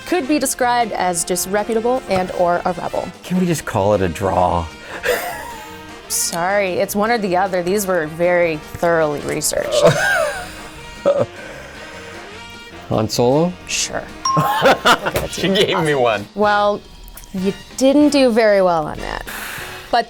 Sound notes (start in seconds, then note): 4.9 laughing; 9.4 laughing; 14.4 laughing